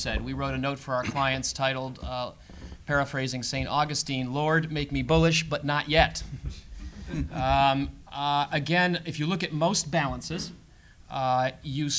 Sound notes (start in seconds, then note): 6.8 laugh